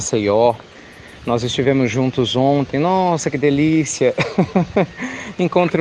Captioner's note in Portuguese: Risos